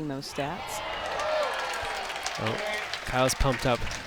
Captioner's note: crowd cheers